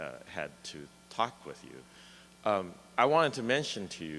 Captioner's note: voiceover